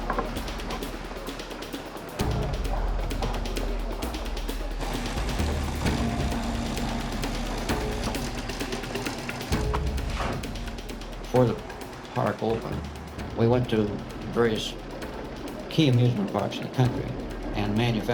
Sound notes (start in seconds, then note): 0.1 percussive music continues; 5.4 drill whirring